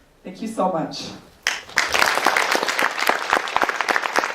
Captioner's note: applause